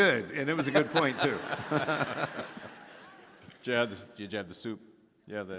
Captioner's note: all laughing